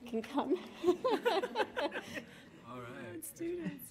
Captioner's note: laughing